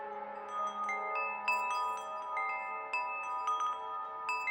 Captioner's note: wind chimes jingling